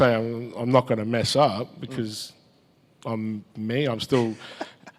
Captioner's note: laughs